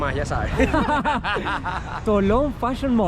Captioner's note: laughter